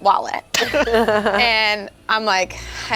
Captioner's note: group laughs